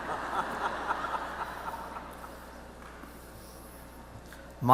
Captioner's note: audience laughs